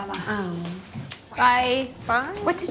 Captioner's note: kissing